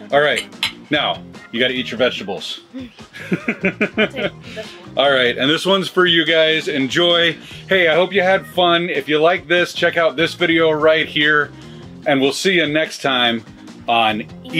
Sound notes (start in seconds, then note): 2.6 laughs